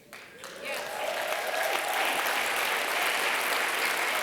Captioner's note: applause